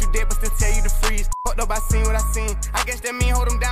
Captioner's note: beep